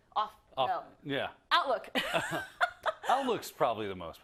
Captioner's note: laugh